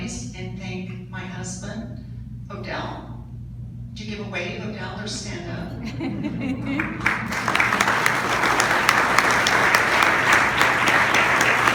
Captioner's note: audience laughs - claps